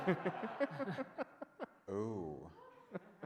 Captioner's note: audience laughs